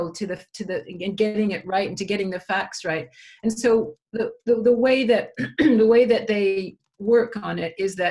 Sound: cough

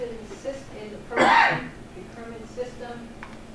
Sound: audience member coughs

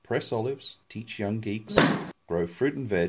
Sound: pop

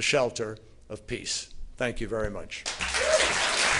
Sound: applause

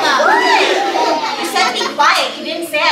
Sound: audience laughing

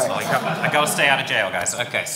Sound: audience laughing

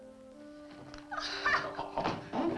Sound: Missy cries

